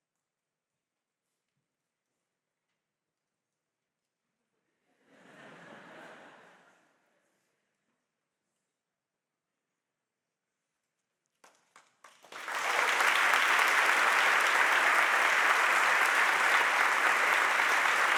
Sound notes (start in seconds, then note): 5.3 audience laughs; 12.1 audience applauding